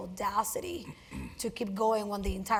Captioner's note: cough